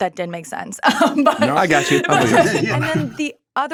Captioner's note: laughing